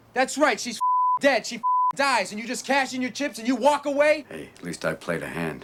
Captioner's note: beeping